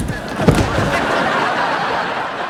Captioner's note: laughing